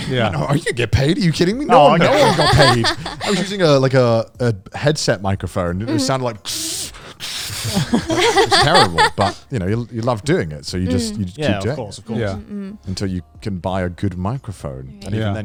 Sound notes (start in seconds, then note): 6.5 imitating static